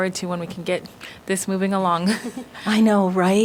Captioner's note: laughter